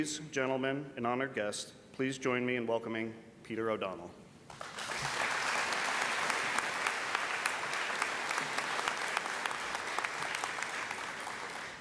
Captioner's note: applause